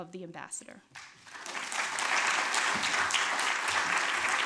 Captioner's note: applause